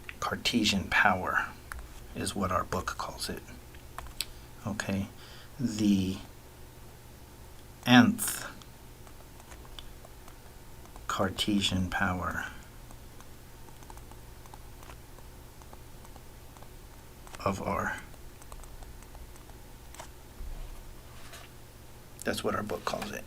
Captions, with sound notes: "Cartesian power" is what our book calls it, okay; the nth Cartesian power of R. [ Writing Sounds ] That's what our book calls it.